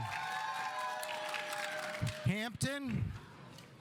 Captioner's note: audience applauding